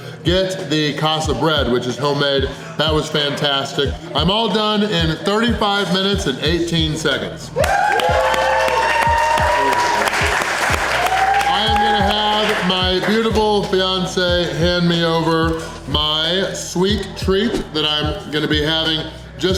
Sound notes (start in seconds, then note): 7.5 crowd clapping and cheering